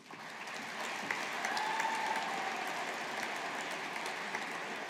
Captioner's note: audience applauding